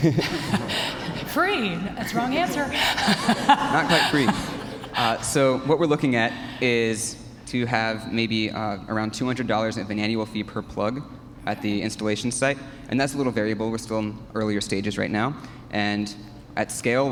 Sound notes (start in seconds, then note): 0.0 laughs